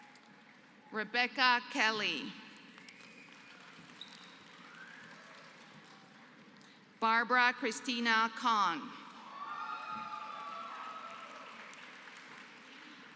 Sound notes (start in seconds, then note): 2.6 applause; 9.2 applause